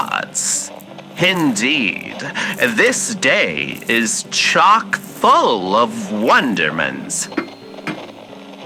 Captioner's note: cutting tart fx